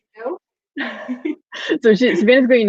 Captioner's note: laughing